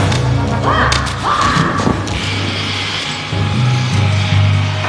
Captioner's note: grunting